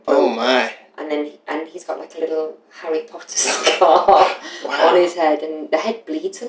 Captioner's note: laughter